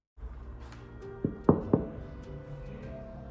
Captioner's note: knock knock knock